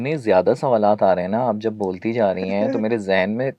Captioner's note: sound of clearing throat